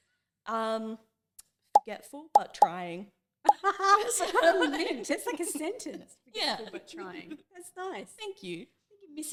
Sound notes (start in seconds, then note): 3.8 laughing